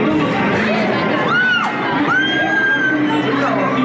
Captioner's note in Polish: okrzyki radości